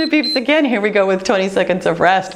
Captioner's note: timer beeps